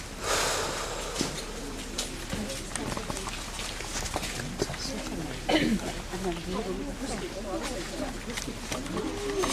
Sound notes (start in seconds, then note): 0.1 breathing Heavy; 5.4 coughing